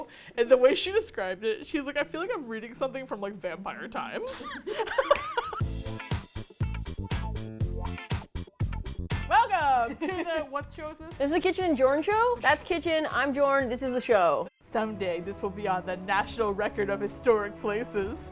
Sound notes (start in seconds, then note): 4.2 laughter; 6.8 upbeat music